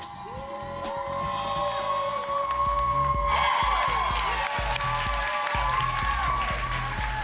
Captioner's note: applause